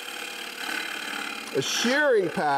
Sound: chisel scrapes

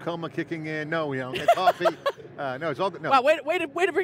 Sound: laughing

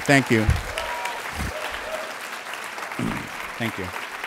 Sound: clapping

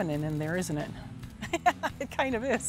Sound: chuckles

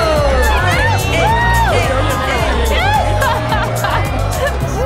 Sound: cheering

